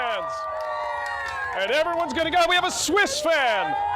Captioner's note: cheering